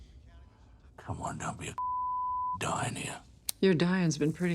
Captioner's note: beep